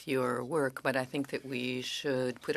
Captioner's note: speaking French